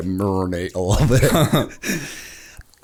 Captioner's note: laughter